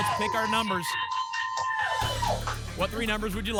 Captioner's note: applause and cheering